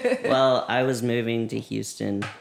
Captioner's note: laughter